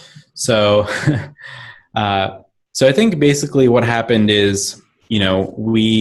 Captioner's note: laughs